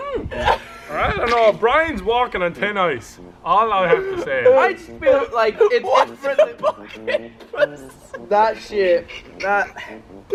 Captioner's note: laugh